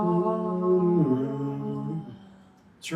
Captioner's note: moaning